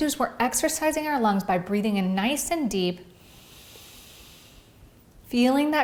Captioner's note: breathes deeply